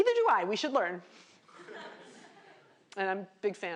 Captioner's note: laughter